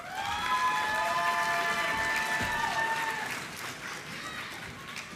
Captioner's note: applause